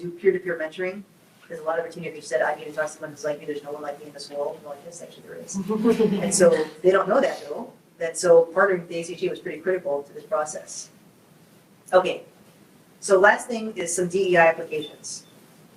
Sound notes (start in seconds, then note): 5.5 group chuckles